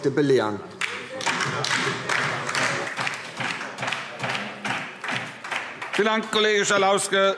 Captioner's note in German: Beifall DIE LINKE